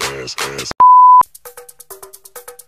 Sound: beep

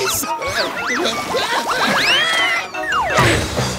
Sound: screaming

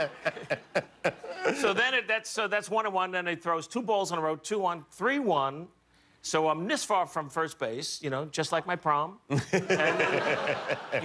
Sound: laughter

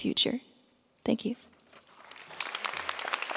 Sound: applause

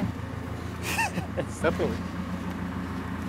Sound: laughs

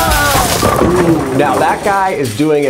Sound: bowling pins clattering

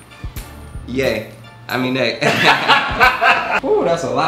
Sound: laughs

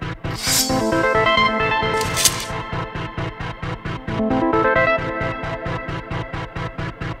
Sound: sword unsheathes; sword clinks

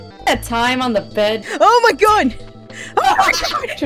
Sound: gasp

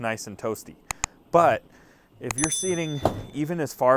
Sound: bell rings

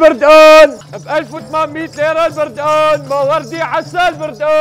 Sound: continues shouting

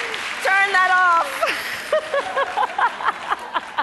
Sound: laughs

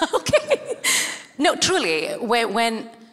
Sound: chuckles

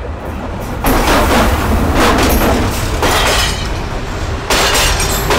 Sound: loud train rumbling

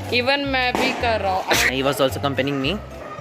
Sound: sneezes

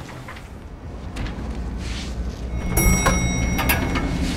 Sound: elevator Dings

